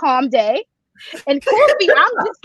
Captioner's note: chuckle